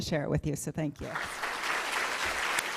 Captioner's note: applause